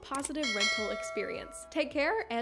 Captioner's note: bell dings